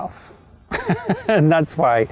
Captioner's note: loud laughing